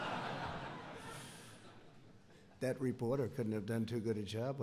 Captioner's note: laughter